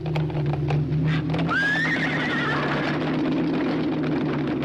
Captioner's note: horses neighing